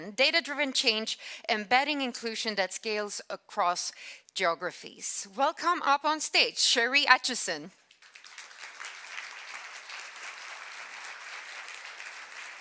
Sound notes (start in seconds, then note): 7.9 audience claps